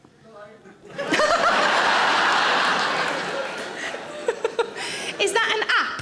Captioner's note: audience laughing; Sarah laughs